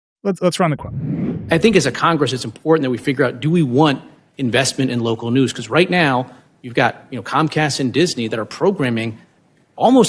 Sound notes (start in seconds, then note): 0.5 screen whooshing